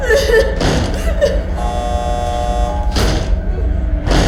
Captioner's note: banging